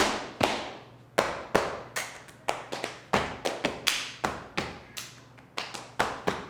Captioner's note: feet thudding; hands smacking